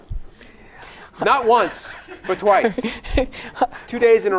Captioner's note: laughing